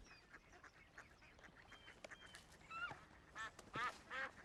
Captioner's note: geese honking